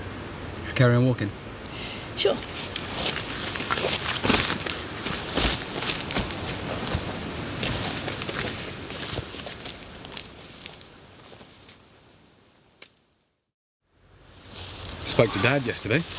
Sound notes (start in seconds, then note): 3.9 footsteps